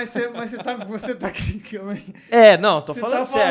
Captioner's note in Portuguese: risos